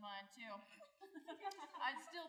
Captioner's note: snickering